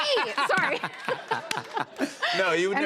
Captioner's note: laughter